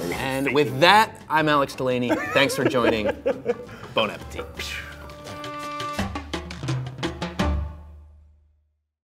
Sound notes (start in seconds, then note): 2.0 Brad laughs; 4.7 upbeat music